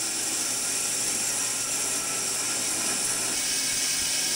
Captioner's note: saw whirring